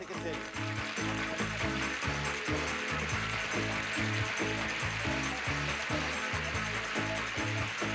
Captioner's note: audience applauding